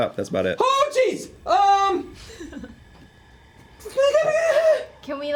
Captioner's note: yells